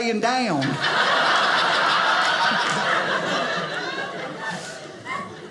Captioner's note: audience laughing